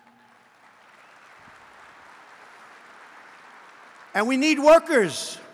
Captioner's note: applause